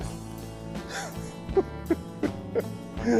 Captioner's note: laughing